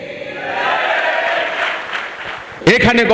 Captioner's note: clap